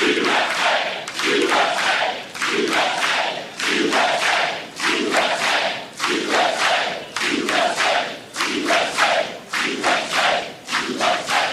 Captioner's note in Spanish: aplausos